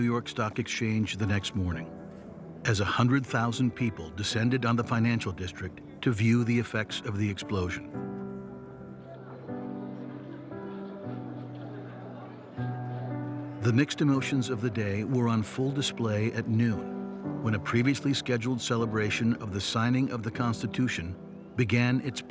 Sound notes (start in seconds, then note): 11.6 crowd murmuring